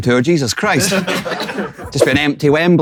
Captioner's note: people in room chuckling